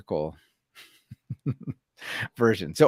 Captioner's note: laughs